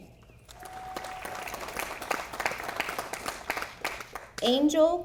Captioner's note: audience applauding